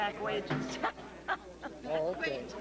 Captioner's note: laughs